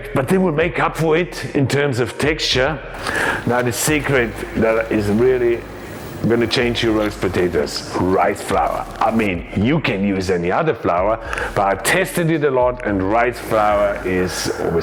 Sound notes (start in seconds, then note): none